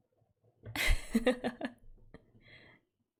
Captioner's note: laughs